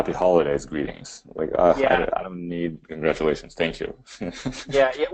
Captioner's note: laughs